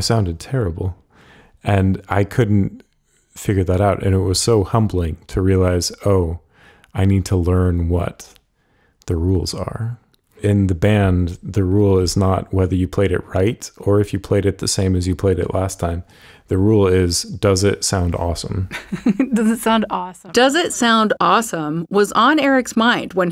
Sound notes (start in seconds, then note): 18.6 laughs